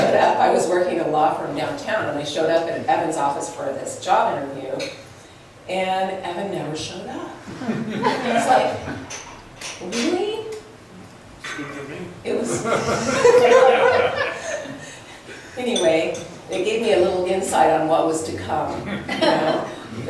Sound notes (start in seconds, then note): 7.6 laughs; 12.4 laughs